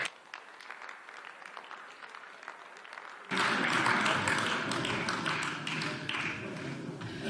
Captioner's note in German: Beifall